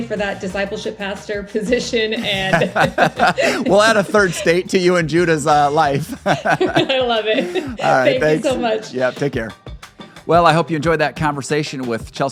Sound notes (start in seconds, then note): 2.8 both laughing